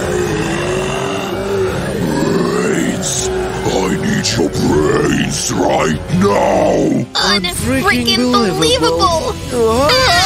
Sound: booming, low-pitched growl

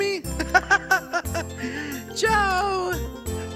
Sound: laughing

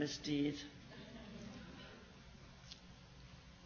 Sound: laughs

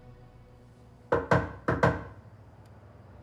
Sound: knock at door

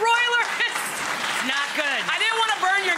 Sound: audience clapping

